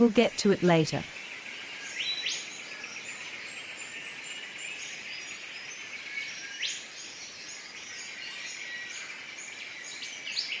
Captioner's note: birds sounds and chirps